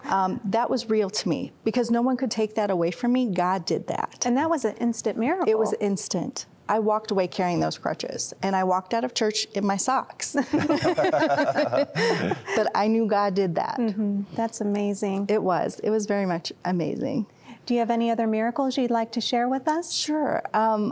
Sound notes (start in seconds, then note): 10.3 laughter